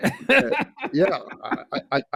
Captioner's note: laughs